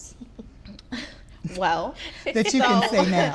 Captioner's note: laughing